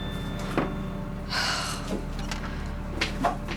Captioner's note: sighs